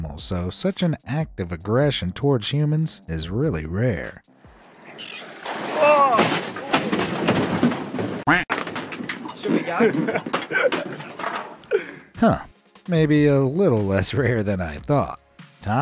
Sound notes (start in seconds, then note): 4.5 whale splashes; 5.7 onlooker exclaims; 6.9 boat clattering; 6.9 expletive quacks; 9.4 onlookers laughing